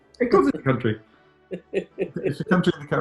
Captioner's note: chuckling